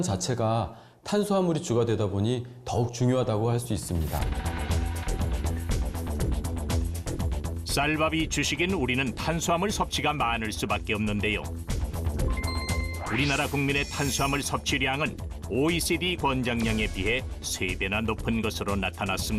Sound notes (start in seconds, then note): 4.5 voiceover